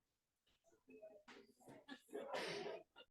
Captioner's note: audience applauding